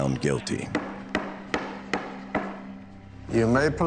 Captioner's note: gavel bangs